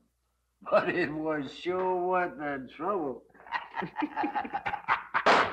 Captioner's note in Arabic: يضحك